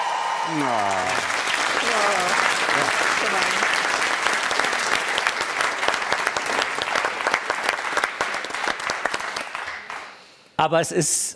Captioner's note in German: Applaus